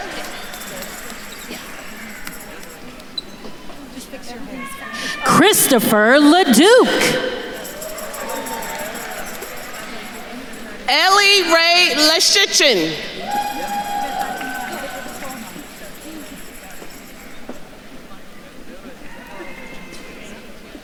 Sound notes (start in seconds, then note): 0.1 attendees chattering; 8.1 attendees cheering; 13.4 attendees cheering; 16.4 attendees faintly chattering